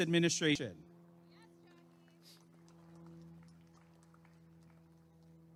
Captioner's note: applause and cheering